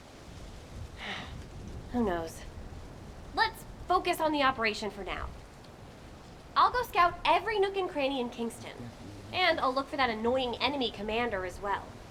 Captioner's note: sigh